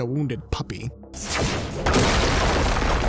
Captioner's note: whooshing, thuds